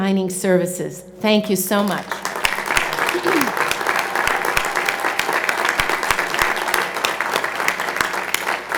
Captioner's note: applause